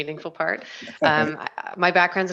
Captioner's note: laughs